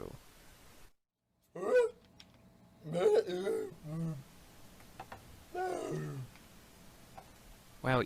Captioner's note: makes ape-like noises